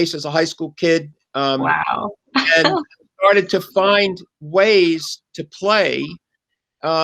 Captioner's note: laughs